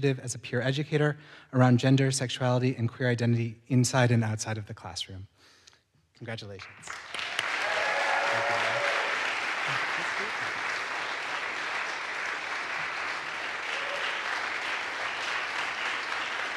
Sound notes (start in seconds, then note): 6.6 audience applauds; 6.8 audience cheers